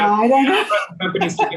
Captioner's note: laughing